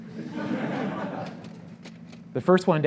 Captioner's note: audience laughs